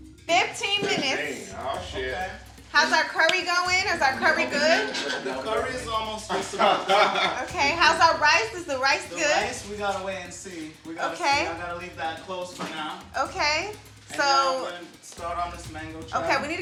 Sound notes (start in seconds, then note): 6.6 laughing